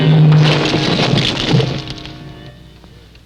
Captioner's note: crumbling